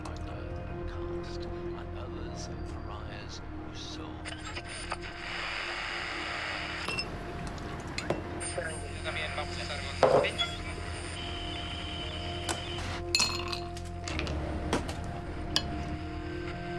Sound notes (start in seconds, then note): 4.3 static crackles; 13.2 ice cubes rattle